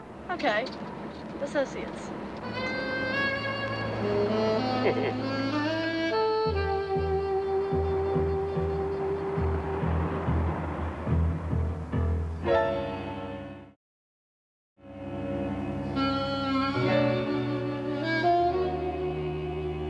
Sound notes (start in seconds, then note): 2.4 gentle jazzy music; 7.0 cars whooshing; 10.3 tense music; 14.8 gentle jazzy music